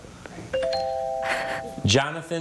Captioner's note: text chiming; chuckling